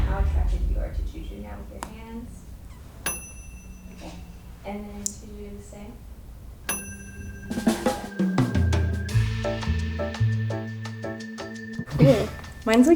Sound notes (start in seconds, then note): 3.0 bell dings; 6.6 bell dings; 9.3 upbeat music